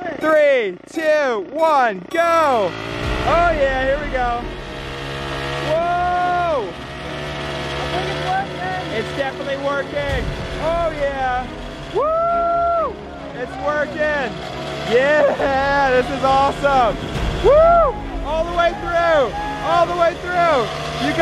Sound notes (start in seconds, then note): 2.5 engine whirring increases; 2.5 suspenseful music